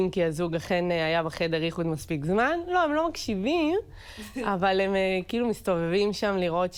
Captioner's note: Hebrew